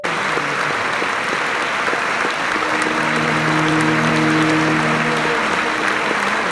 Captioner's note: a crowd applauds